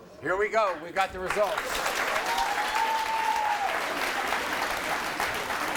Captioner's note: audience cheering